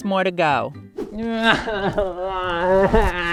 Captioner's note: whines